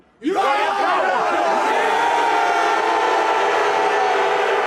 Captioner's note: group cheering